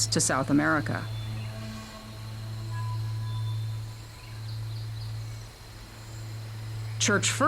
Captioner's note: birds chirping